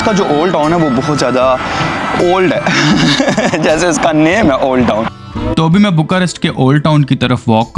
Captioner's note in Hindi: हंसी